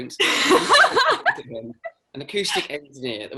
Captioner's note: chuckles